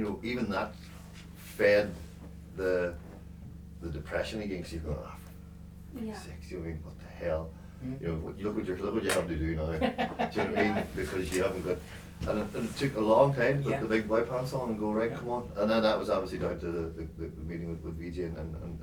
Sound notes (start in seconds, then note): 11.7 laughing